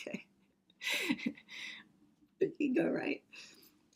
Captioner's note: chuckles